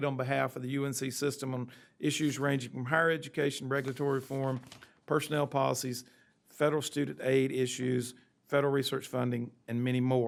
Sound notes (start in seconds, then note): none